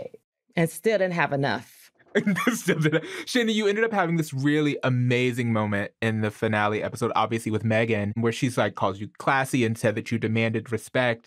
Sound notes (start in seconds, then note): 2.1 laughs